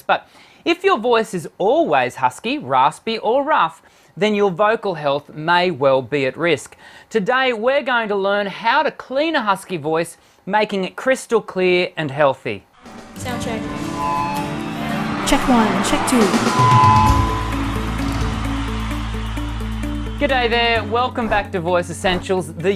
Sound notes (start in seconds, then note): 13.8 feedback whining; 16.2 crowd cheering; 17.1 upbeat, melodic music